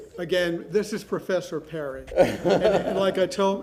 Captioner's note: laughter